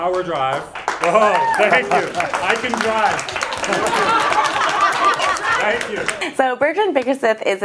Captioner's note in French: Applaudissements; rires